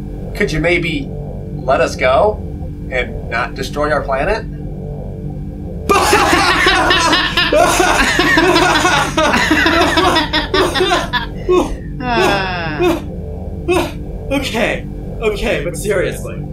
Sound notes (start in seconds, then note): 5.9 uproarious laughter; 9.3 still laughing